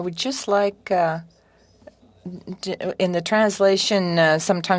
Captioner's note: speaking French